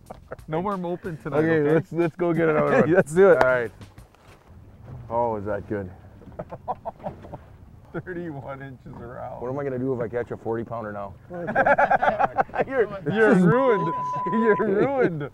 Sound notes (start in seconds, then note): 11.2 laughter